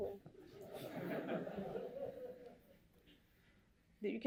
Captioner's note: laughter